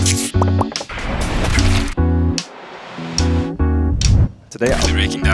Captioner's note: overlapping sound effects